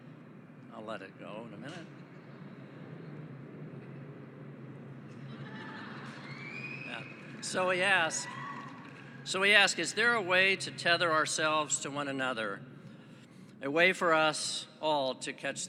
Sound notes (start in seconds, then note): 3.7 laughing; 3.7 sound of airplane flying above